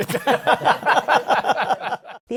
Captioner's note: laughter